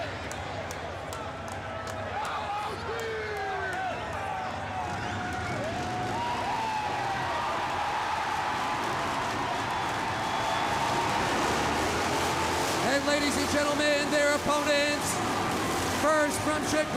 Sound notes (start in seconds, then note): 1.6 crowd chatter